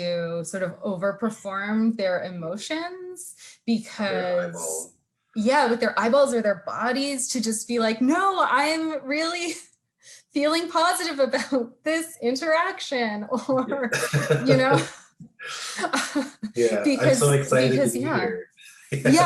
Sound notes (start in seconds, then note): 13.4 laughing